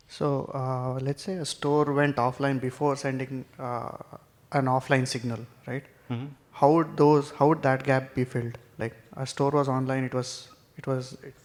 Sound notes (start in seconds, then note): 6.0 mmhmms